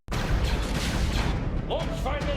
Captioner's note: lasers blasting